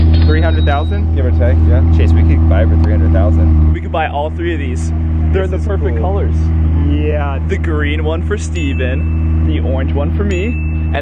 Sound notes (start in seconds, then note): 0.0 cash register dings; 8.4 bell ringing